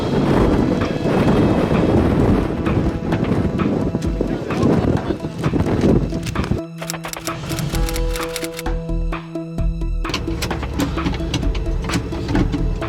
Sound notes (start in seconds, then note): 0.0 wind whooshing; 6.7 clicking